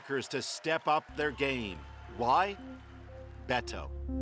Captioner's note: cheers and applause